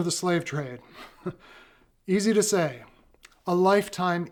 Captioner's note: laughs